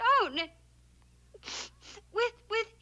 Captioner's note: sniffs